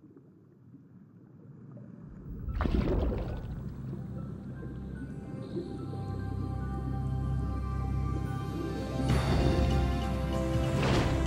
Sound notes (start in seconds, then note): 2.1 water bubbles, underwater; 8.6 instrumental music